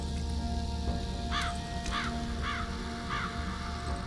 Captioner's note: crow cawing